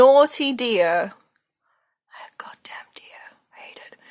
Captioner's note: whispers